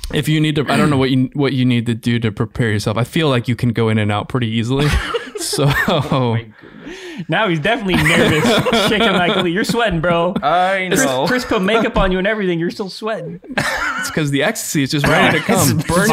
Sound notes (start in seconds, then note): 4.8 all laughing